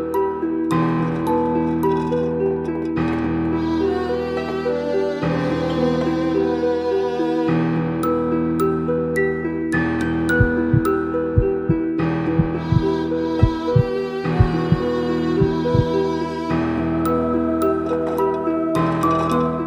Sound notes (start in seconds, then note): 12.3 heartbeat